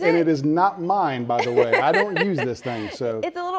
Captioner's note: laughs